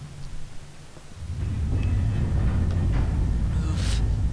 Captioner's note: elevator clanking